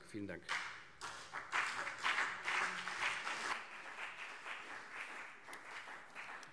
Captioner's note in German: Beifall CDU und BÜNDNIS 90/DIE GRÜNEN